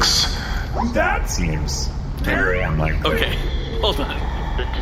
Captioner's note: hesitant